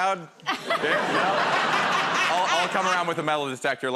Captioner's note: laughter